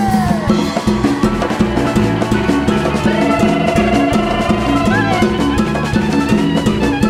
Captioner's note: audience cheering; upbeat percussive music